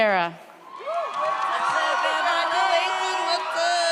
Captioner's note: audience cheers